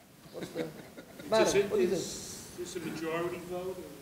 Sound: audience laughing

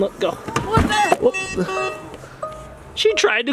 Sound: alarm beeping

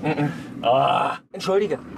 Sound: moans

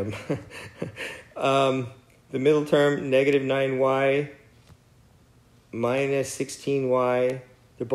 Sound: laugh

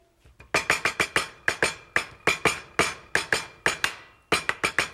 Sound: knife hitting the table

